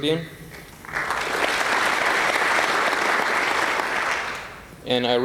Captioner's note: applause